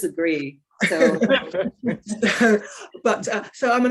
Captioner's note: woman chuckling